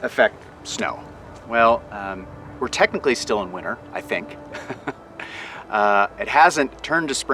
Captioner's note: laughs